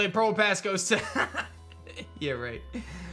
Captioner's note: chuckles